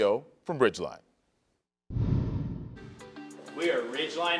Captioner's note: wind whooshes